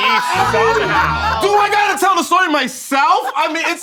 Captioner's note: all laughing